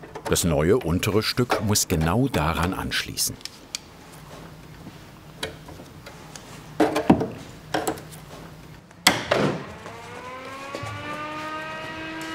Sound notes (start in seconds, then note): 6.9 metal noises; 9.7 raising whirring